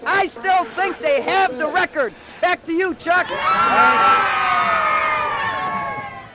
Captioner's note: cheers